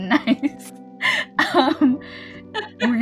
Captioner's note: laughs